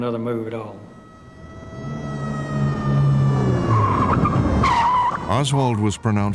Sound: sirens blaring

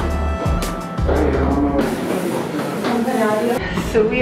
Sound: stepping noises

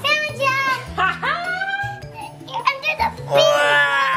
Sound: laughs

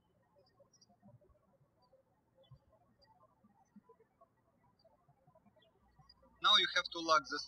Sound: birds chirping

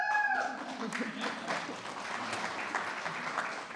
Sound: attendees cheering

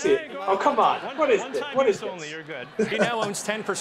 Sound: Ken laughs

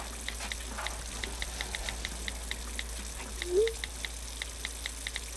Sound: phone keyboard clicks

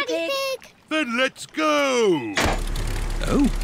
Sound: lever clunks

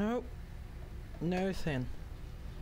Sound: weird voice

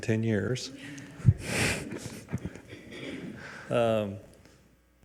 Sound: people chuckle

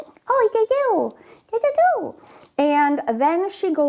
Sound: speaks gibberish

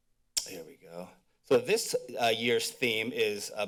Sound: click sounds

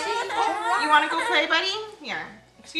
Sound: baby fusses

